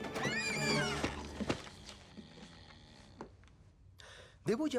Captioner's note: snoring